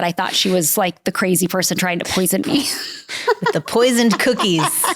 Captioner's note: laughs